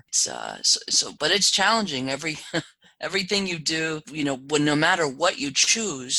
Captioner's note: laugh